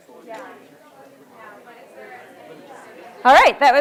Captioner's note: audience chattering softly